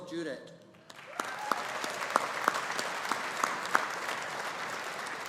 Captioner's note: audience applauding